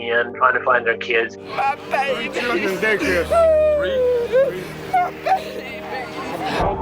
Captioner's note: sobbing